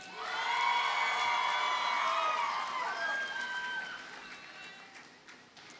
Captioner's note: audience cheers and applauds